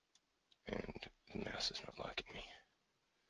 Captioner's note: whispering